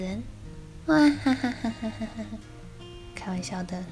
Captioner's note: witch laughs